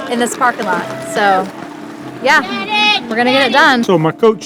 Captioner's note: group clapping and cheering